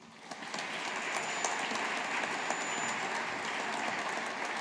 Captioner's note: audience applauding